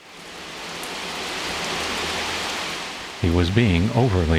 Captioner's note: loud torrential downpour